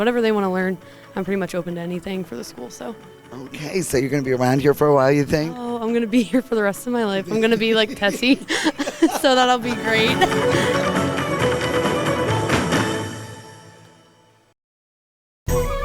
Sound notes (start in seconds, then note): 8.9 laughing; 10.6 pipe step music